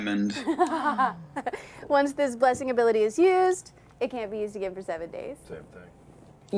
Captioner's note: laughs